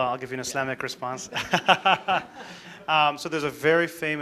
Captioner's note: laughs